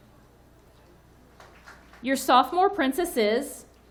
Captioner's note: audience clapping